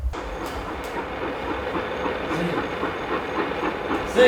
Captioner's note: train chugging